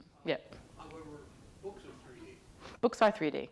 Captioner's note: man speaks off mic